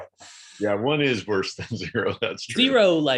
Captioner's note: chuckles